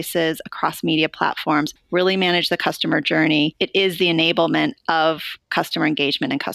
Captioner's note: none